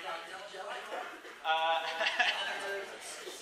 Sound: chuckles

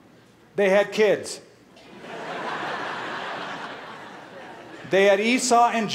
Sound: laughter

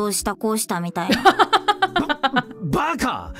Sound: chuckles

